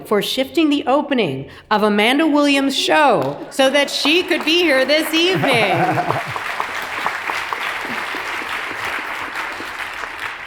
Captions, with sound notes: for shifting the opening of Amanda Williams' show, so that she could be here this evening. (audience applauds)